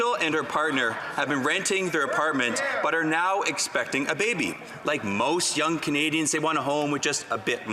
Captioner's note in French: voix de l'interprète